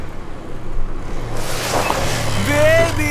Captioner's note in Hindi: टायर की आवाज